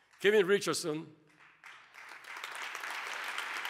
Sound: applause

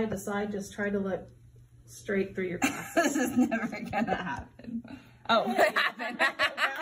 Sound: laughing; everyone laughing

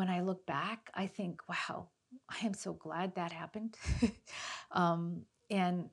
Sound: chuckles

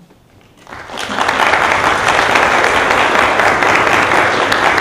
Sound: audience applauding

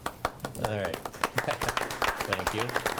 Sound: chuckles; board members applaud

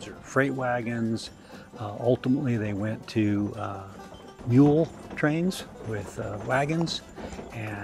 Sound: hooves on gravel

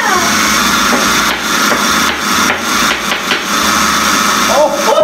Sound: rhythmic tapping

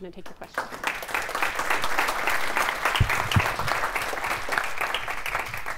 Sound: audience clapping

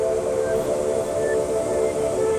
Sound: wind blowing

